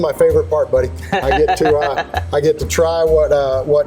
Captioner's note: laughs